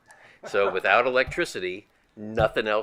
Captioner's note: group laughing